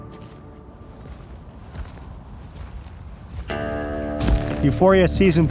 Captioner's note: cicadas chirping; music fades